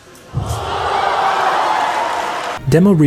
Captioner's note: crowd cheering